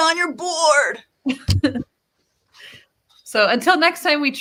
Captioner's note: laughs